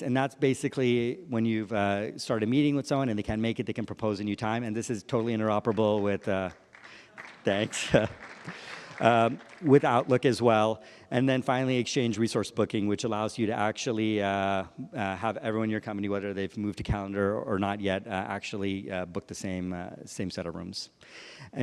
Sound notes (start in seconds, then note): 5.6 applause